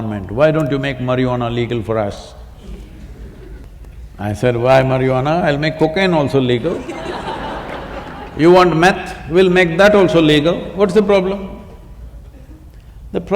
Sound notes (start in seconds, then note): 6.6 laughter